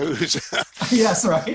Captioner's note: laughs